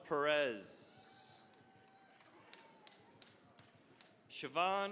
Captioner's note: cheering, applause